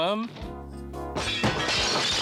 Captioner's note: glass shattering; vase crashing